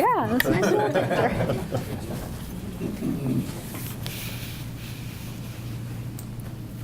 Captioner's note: group laughs